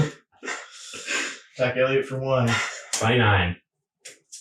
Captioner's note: all laughing